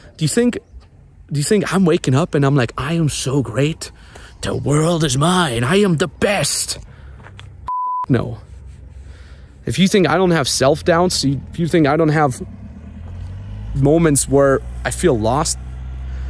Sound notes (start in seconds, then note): 7.6 beep